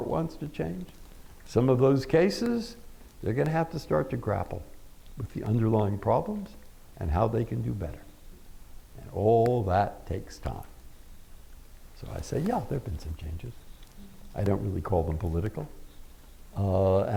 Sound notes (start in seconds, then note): none